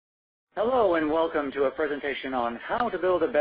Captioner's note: voiceover